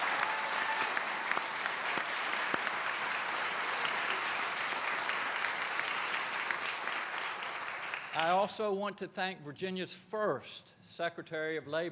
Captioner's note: applause